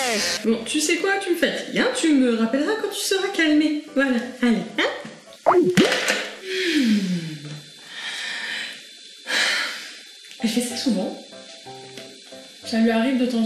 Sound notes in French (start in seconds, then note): 6.5 soupire